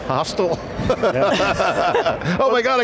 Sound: group laughing

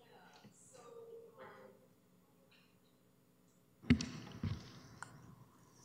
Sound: speaking off mic

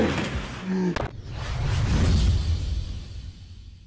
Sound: whooshing

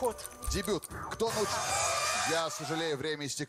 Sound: siren

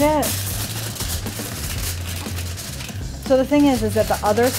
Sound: foil crinkling

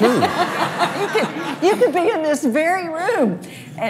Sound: laughs

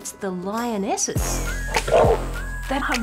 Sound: roars

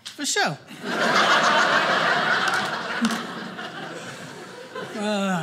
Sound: audience laughing

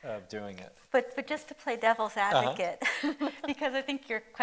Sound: chuckles

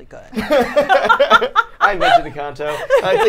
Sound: all laughing

